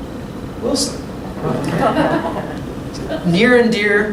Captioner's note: laughter